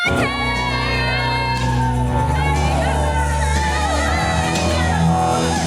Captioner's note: cheering